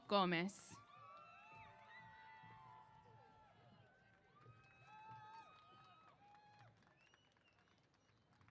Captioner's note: applause & Cheers